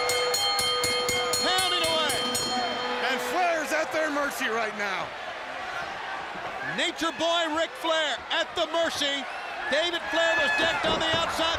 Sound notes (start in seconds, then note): 1.5 bell ringing; 6.9 crowd chatter